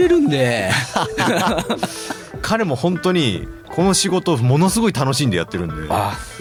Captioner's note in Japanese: 笑い